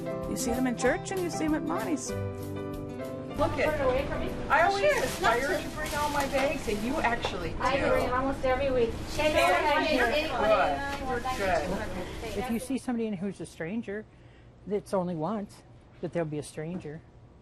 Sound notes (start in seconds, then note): 4.1 customer chatter